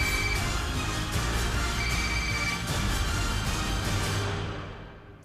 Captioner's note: phone ringing